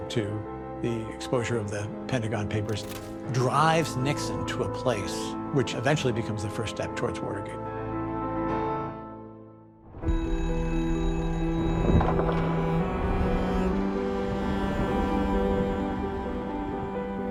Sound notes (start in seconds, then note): 9.9 phone ringing